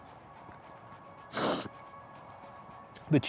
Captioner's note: sniffles